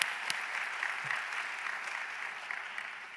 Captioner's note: applause